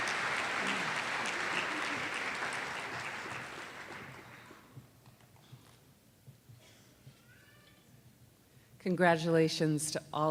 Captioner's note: applause